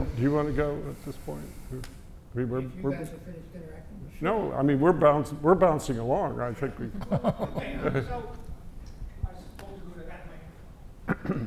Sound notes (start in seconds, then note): 6.9 laugh